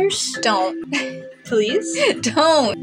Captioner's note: chuckle